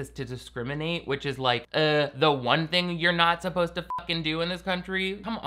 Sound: beep

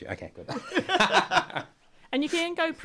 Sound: laughter

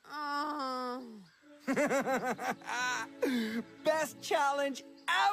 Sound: evil laugh and deep breath

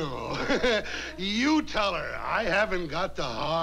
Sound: laughs

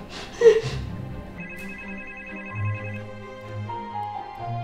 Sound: phone ringing

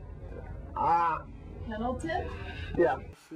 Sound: groans in frustration

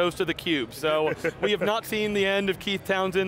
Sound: both laughing

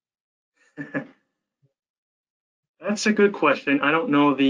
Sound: chuckles

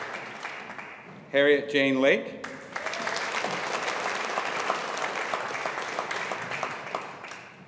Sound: audience applauding

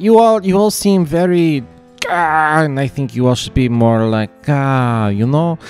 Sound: stressed sound

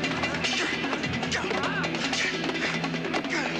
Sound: grunting

